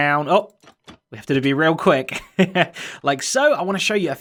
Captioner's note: chuckles